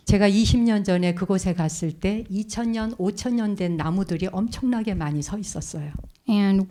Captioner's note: speaking in Korean